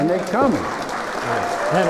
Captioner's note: applause